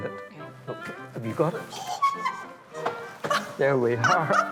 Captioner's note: laughs